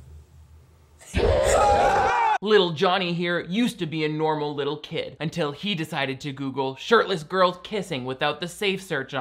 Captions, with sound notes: (all screaming) - Little Johnny here used to be a normal little kid until he decided to Google "shirtless girls kissing" without the safe search on,